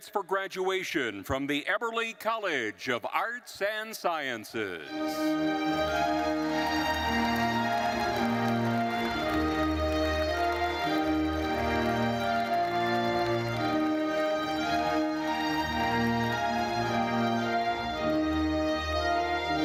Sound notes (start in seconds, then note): 5.3 attendees applauding; 5.3 uplifting classical music